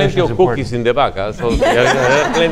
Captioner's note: audience laughs